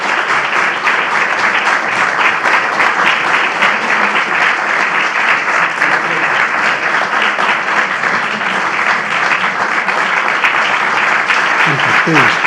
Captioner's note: applause